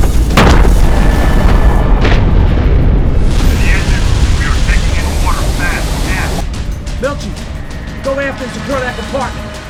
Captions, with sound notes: [water rushing] This is the engine room we are taking in water fast aft. Milchie go aft and secure that compartment.